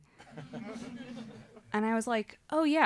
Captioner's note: audience laughing